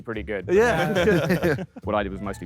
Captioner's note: Sidemen laugh